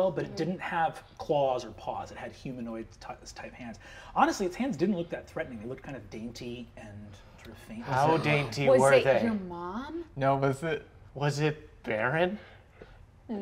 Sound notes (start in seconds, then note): 9.1 gasps